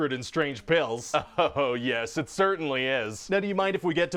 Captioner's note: laughs